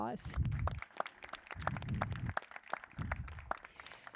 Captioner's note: crowd applauding